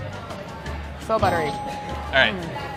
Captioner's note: bell dinging